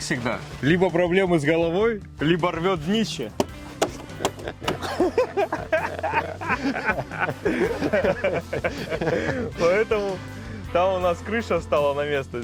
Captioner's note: laughter